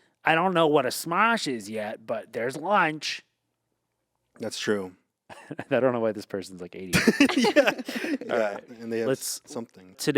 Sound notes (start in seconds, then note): 7.0 laughs